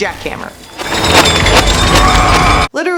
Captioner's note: slow jackhammer sounds